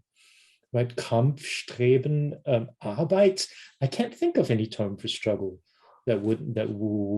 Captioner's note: speaking german